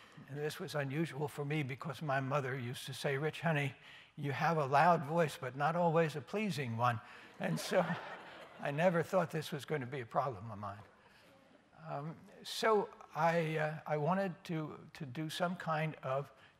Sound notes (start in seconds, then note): 7.3 laughter